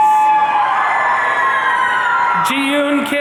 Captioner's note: audience cheering